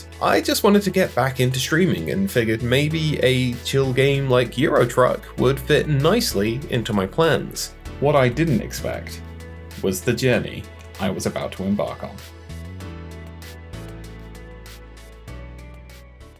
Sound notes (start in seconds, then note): none